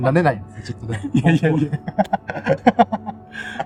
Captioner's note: laughs